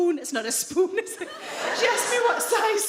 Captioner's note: audience laughs